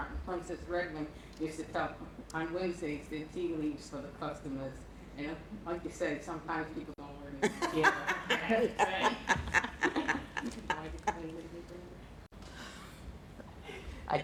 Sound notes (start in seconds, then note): 7.4 laughter